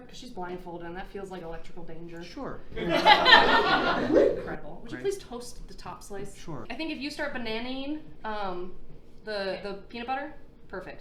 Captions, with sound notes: Because she's blindfolded and that feels like electrical danger. - Sure. (audience laughing) - Incredible. Would you please toast the top slice? - Sure. - I think if you start bananaing the peanut butter, perfect.